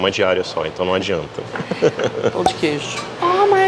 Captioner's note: laughs